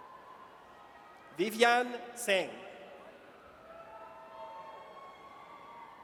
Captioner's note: audience cheers